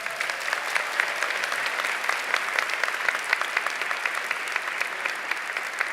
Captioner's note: applause, cheering